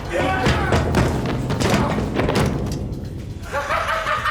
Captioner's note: thuds; laughs